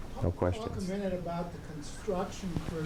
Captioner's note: voiceover